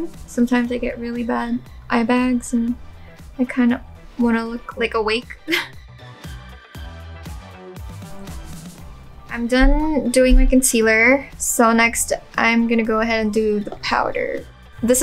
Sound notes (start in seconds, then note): 5.5 laughs; 7.4 upbeat music